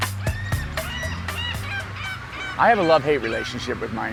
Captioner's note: seagulls Calling